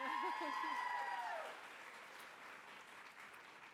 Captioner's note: applause